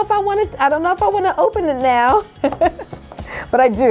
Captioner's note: laughs